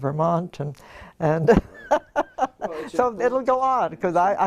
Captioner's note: laugh